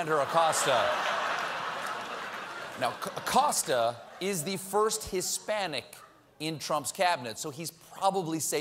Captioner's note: laughter